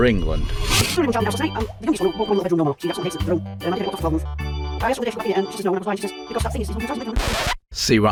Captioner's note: fast forward Sound FX